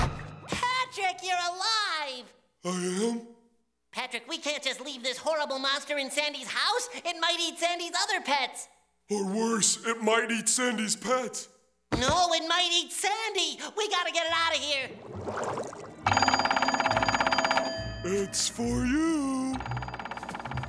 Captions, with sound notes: Patrick, you're alive! I am? Patrick, we can't leave this horrible monster in Sandy's house. It might eat Sandy's other pets! Or worse, it might eat Sandy's pets. No, it might eat Sandy! We've gotta get it out of here! [ringing] It's for you! [ringing]